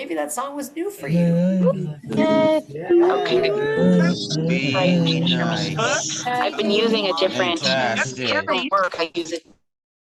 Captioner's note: cheering